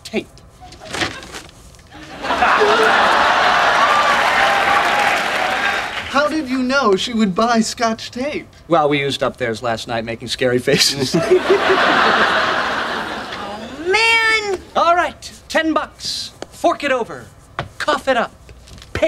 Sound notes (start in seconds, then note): 1.9 audience laughing; 11.0 audience laughing